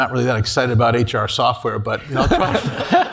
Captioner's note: laugh